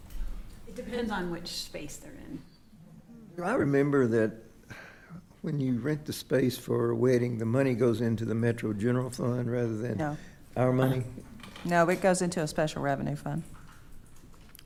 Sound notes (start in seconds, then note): 4.7 sighs